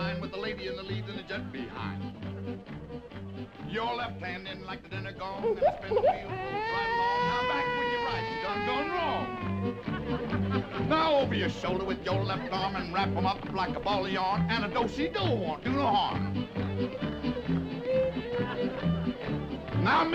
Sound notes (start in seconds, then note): 2.5 upbeat music; 5.5 baby crying; 16.8 upbeat music